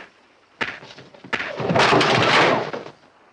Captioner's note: punching